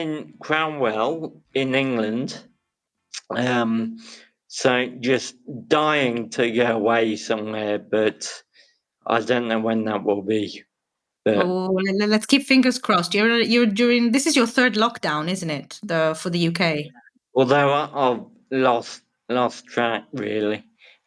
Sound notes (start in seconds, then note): none